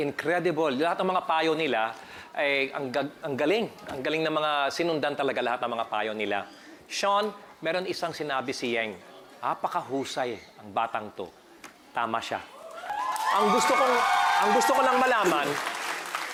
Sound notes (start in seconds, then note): 12.6 audience cheering